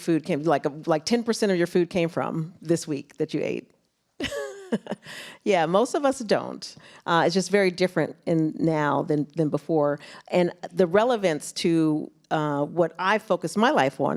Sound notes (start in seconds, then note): 4.2 laughs